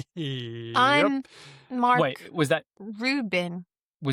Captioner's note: laughs